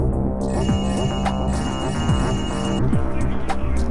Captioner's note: sounds of yoinking